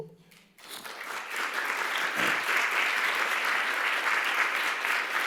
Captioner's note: applause